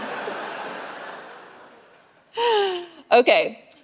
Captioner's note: audience laughing